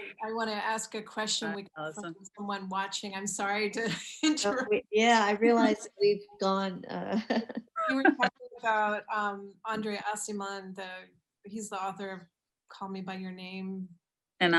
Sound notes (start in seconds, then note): 4.5 chuckles; 7.2 laughing